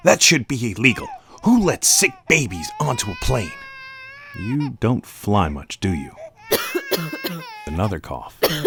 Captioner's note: cough